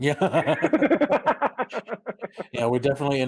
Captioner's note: joyful laughter